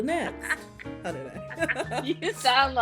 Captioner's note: laughing